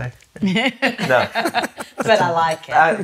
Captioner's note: laughs